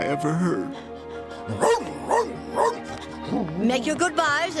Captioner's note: woof woof woof